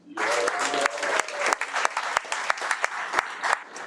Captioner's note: audience applauding